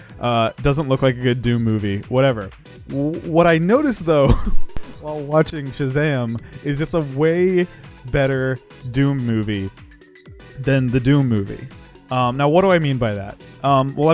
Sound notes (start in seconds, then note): 4.2 laughs